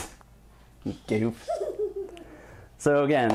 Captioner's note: laughter